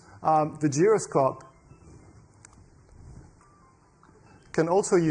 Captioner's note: cell phone ringing